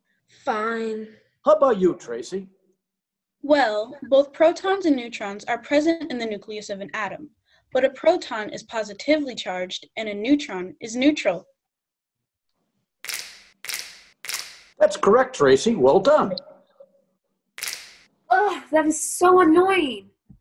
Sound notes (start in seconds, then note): 13.1 snapping fingers; 17.6 snapping fingers